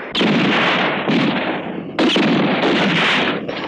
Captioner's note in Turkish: Silah sesleri